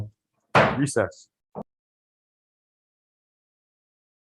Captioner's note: gavel slams